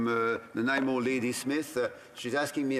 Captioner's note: speaking in French